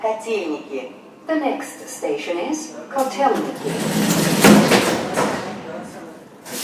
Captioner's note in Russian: закрытие дверей